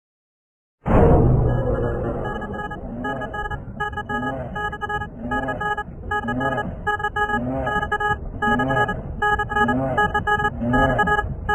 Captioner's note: giga Supernatural Killer Closeup Sound